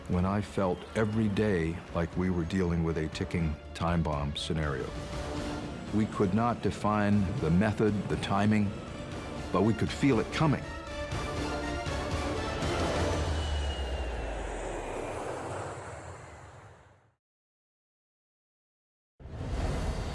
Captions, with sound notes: when I felt every day like we were dealing with a ticking time bomb scenario. We could not define the method, the timing, but we could feel it coming. [suspenseful music] [jet whooshing]